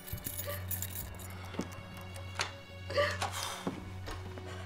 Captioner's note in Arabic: رنين المفاتيح; موسيقى درامية ناعمة